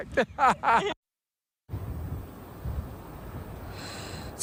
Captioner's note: laughs